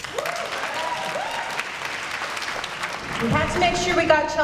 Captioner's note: applause